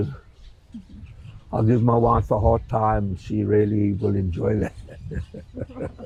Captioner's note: laughing